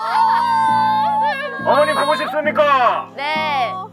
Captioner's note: crying